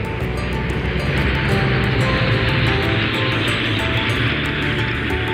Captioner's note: sound of propellers